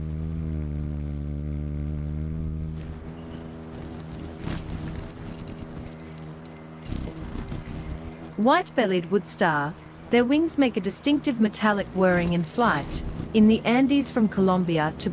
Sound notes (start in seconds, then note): 0.2 bird's wing flapping; 3.5 birds chirping